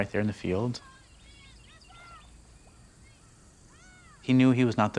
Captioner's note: child shouting in distance